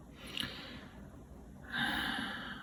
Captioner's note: deep sigh